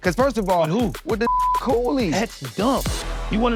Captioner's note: beep